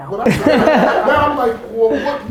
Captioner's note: group laughter